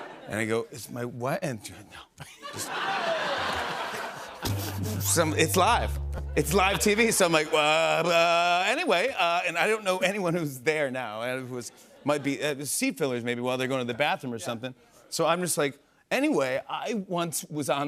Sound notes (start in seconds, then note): 2.4 laughter; 4.4 sad tuba plays